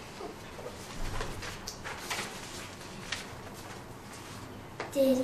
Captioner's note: shuffling of papers